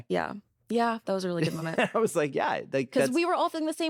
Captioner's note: chuckling